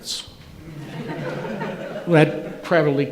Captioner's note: audience laughing